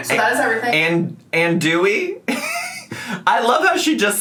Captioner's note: laughs